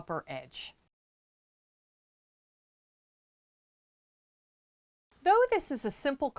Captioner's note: no Sound Present